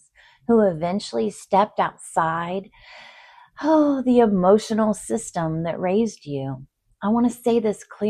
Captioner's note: sighs and gasps